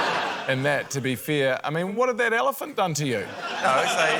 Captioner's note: laughter; laughter